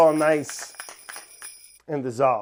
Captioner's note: sleigh bells